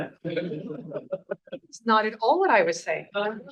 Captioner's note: laughs